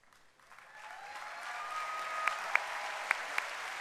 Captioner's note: cheering and applause